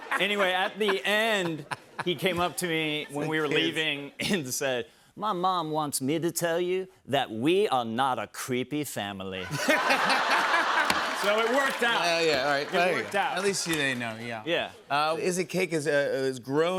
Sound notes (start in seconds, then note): 9.4 laughter